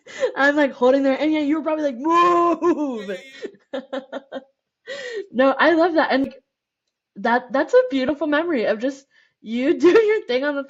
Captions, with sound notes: >> I'm like, holding there, you're probably like, moo [LAUGHTER] No, I love that. That's a beautiful memory of just you doing your thing on